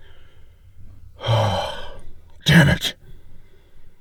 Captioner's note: sigh